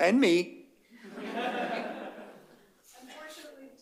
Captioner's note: laughter